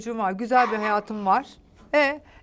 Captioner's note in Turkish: Köpek Sesi